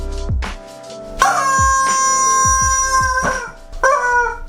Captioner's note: chicken squeaking